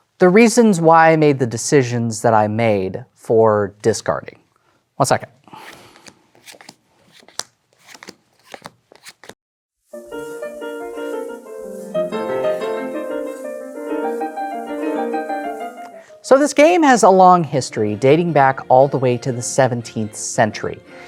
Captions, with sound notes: the reasons why I made the decisions that I made for discarding. One second. (cards slapping) (upbeat classical music playing) So, this game has a long history, dating back all the way to the 17th century.